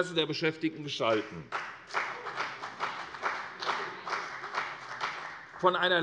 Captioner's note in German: Beifall CDU